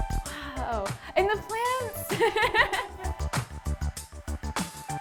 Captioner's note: laughs; upbeat music continues